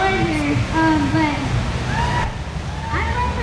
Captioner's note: crowd cheers